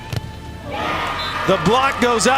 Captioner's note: audience cheers